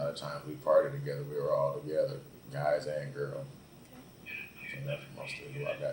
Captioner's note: radio in the background